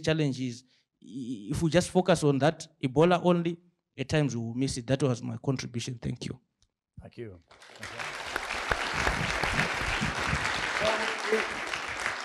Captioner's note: applause